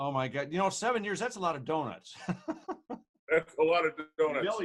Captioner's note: laughs